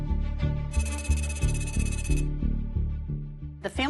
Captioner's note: anxious music; rapid electronic beeps